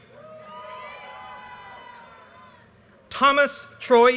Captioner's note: audience cheers and applause